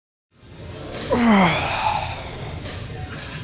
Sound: exhales

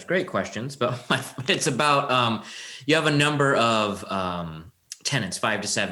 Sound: chuckle

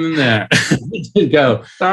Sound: laughs

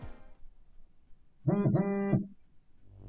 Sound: phone vibrates across room

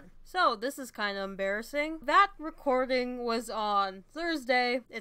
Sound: none

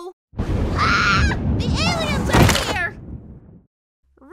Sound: thunder; screams

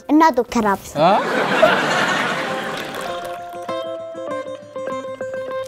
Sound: laughter

